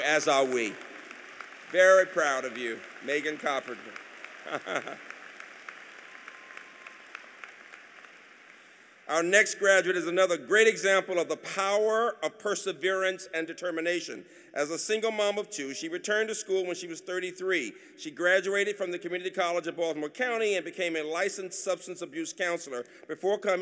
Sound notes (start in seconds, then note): 4.0 applause